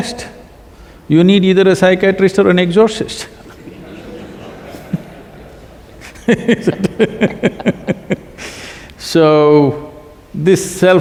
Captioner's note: laughter; both laugh